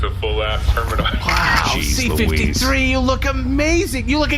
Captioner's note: excited